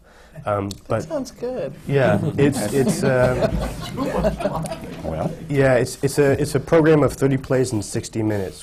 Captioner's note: laughter